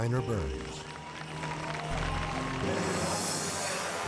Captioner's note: spectators applaud